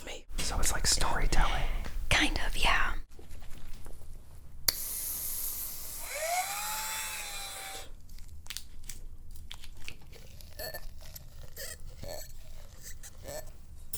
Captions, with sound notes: - So, it's like storytelling? - Kind of, yeah. (foam spraying) (whirring) (wet mushing) (latex squeaking on glass)